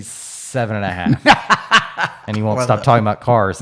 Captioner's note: laughing